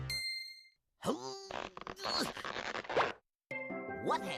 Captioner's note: grunting